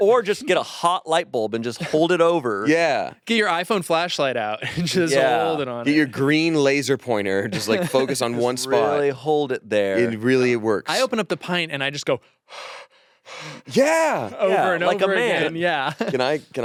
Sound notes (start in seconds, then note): 13.3 exhaling; 14.2 laughs